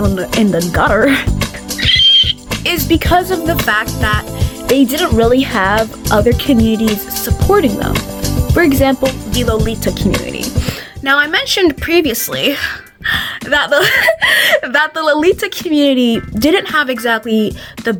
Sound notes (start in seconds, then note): 13.7 laughs